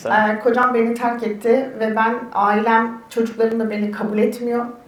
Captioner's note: speaks in Turkish